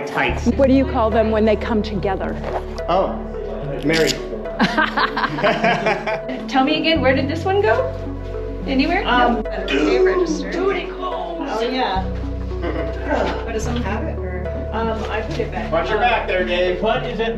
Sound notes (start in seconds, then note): 4.6 laughter